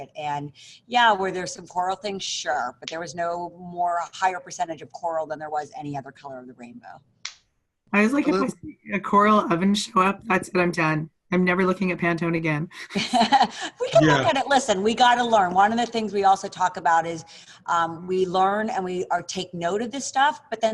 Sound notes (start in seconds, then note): 12.9 laughs